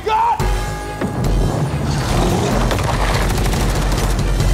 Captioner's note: ground rumbling